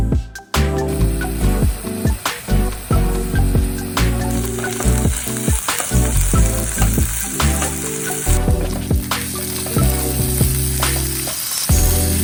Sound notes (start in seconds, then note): 1.0 cooking/sizzling asmr